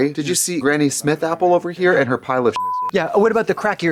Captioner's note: beep